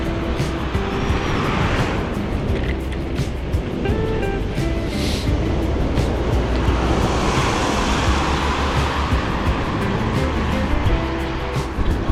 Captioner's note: wind Blowing